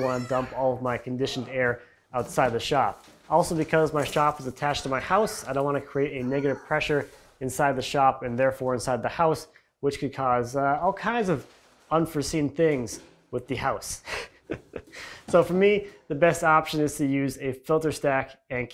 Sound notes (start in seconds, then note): 14.4 laughing